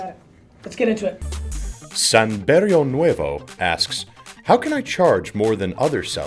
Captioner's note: voiceover